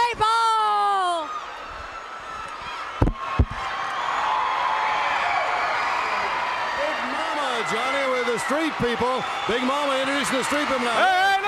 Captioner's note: crowd cheering